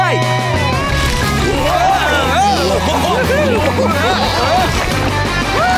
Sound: sliding

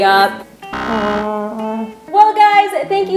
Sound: buzzer

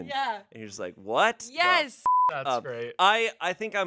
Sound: beep

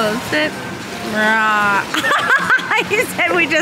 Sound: laughs

